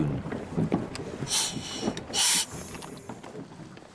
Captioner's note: air hisses